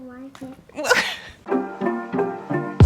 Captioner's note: laughing